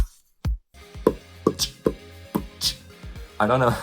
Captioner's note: still beatboxing